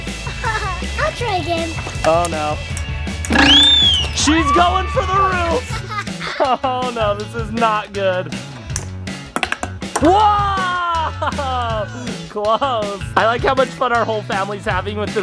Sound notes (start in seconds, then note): 0.3 laughs; 3.3 whistle blows; 4.2 screams